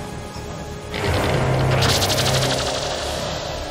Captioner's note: neck mesh fabricator sounds